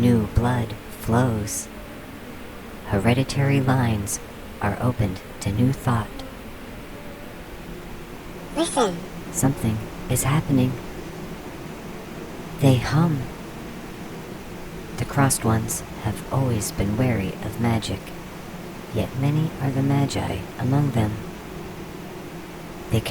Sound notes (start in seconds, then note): 8.5 The Buzzing voices; 8.6 small buzzing voice